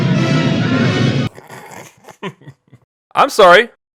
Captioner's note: snickering